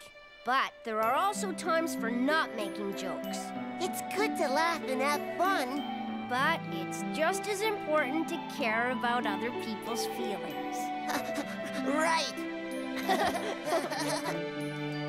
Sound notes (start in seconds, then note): 12.9 giggles; 13.0 chuckle